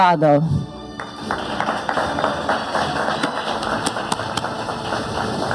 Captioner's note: audience applauding